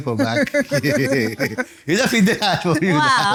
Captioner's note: laughs